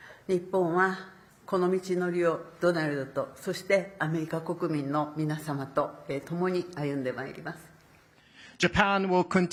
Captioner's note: speaking Japanese